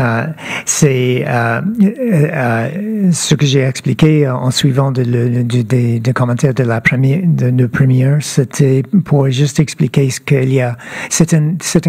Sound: speaking French

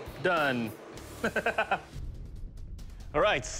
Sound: laughs

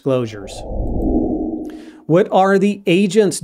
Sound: air whooshing

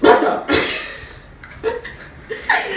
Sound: laughs

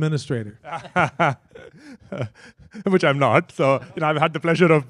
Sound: laughs

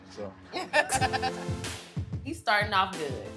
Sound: laughs

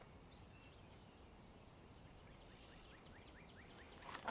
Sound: birds chirping

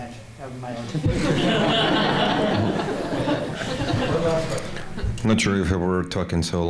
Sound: laughter

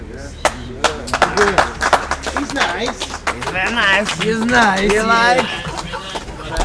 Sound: applause

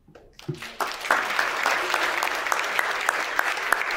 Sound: applause

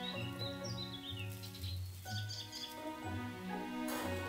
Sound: rustling

